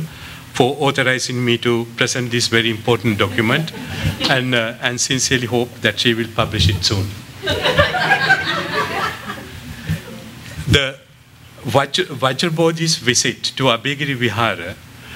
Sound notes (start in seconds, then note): 7.4 laughter